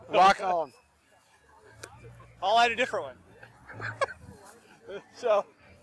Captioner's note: laughing